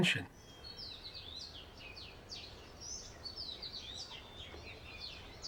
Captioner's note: birds chirping